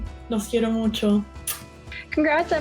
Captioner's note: speaking spanish